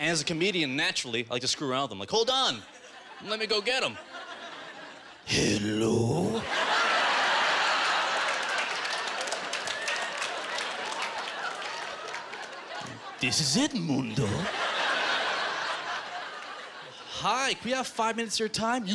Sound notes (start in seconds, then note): 6.7 audience laughing